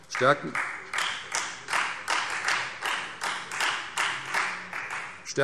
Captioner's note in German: Beifall Freie Demokraten